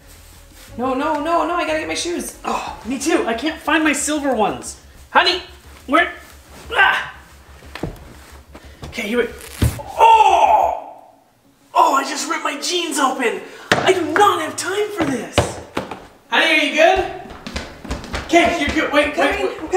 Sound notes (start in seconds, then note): 6.3 dad groaning; 9.3 ripping; 9.8 dad groaning